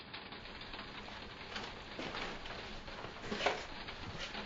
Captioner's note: raining